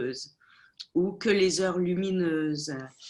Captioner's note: speaking French